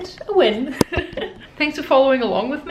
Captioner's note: lady chuckling